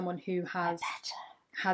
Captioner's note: whispering